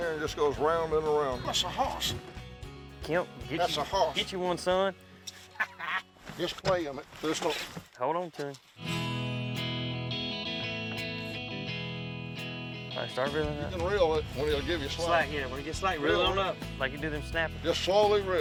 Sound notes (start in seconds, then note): 5.5 laughs; 8.5 guitar music playing